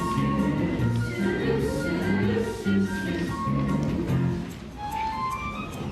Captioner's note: quieter